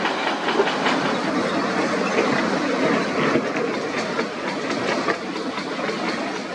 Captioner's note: excavator Rumble